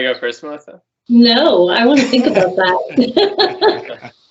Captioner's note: everyone laughing